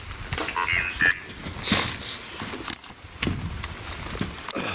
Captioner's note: robotic Voice